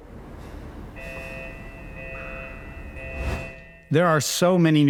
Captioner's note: alarm blaring